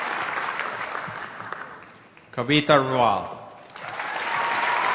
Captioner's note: applause; applause